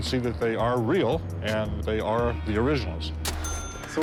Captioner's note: register dings